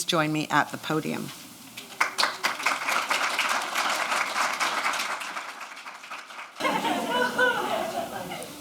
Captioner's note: audience clapping